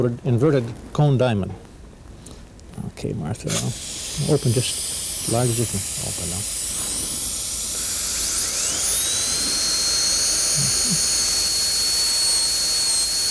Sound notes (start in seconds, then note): 10.2 drilling sound